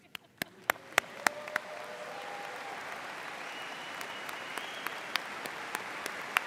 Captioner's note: audience applauding and cheering